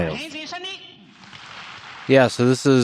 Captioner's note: audience applauding